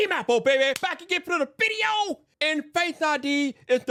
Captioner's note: hands smacking